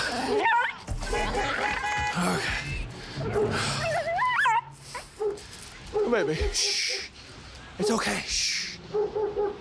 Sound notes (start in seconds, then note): 0.3 dog barking; 3.3 dog squealing